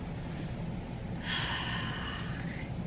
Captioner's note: heavy sigh